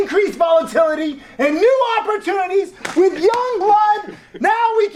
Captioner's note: slapping sound